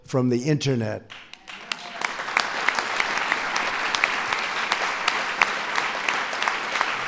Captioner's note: applause